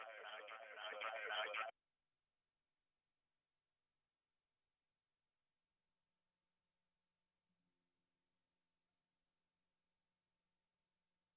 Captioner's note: large echo